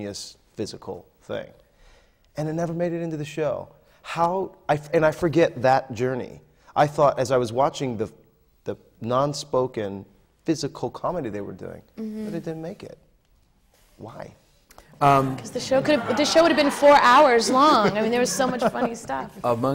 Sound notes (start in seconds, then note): 15.7 laughter